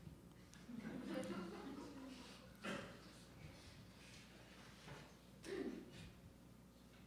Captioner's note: audience laughing